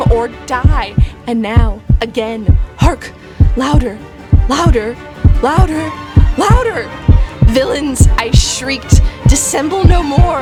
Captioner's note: yelling